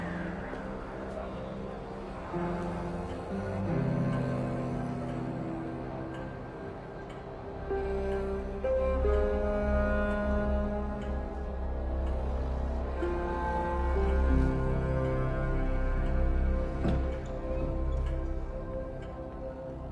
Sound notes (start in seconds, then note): 12.3 clock ticking